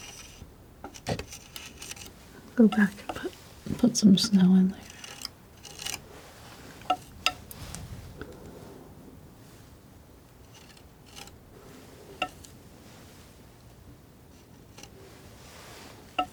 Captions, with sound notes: Go back and put some snow in there (tapping)